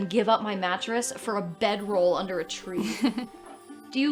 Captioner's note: laughs